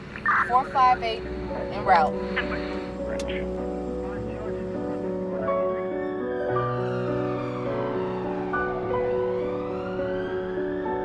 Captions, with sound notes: - 458 in route. (gentle music) (siren blaring)